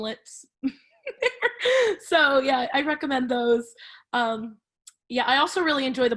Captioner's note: laughs